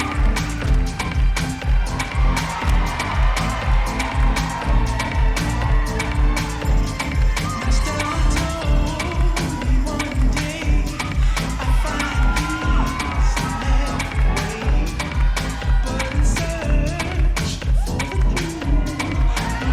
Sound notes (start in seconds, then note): 2.8 audience cheering